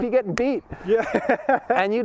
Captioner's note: laughs